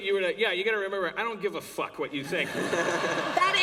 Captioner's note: laughter